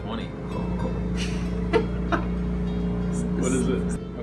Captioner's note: laughs